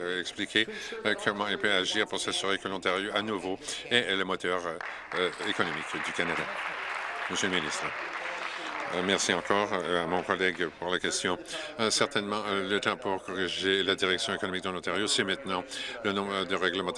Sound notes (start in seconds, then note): 6.9 applause